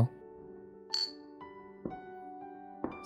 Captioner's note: clink!